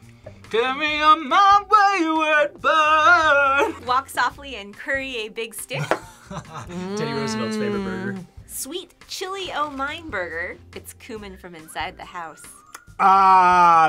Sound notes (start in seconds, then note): 6.2 laughs